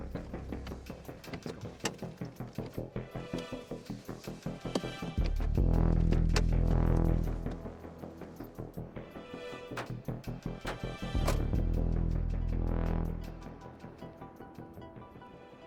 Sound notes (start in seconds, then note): 0.1 suspenseful music continues; 2.7 doors rattling; 2.7 suspenseful music continues; 9.7 doors thumping; 10.1 suspenseful music continues